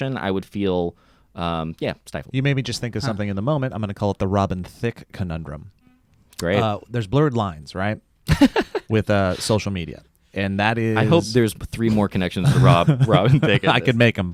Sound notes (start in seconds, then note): 8.2 laughs